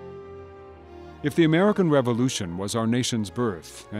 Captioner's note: voiceover